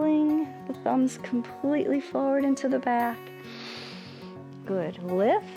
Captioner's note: inhales